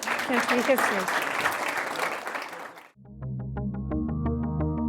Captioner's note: applause